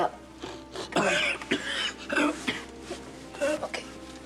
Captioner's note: coughing